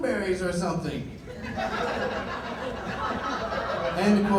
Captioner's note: laughter